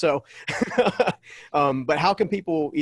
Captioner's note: laughs